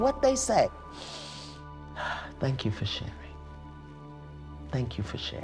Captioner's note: inhales, exhales